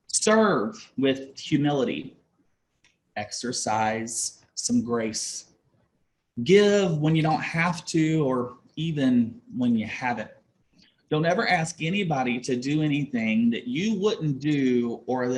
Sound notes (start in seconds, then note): none